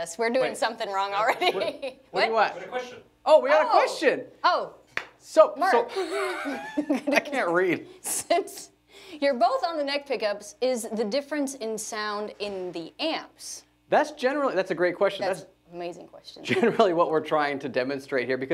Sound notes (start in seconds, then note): 5.8 laughing